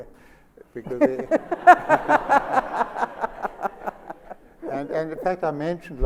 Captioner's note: Sonia and Albie laugh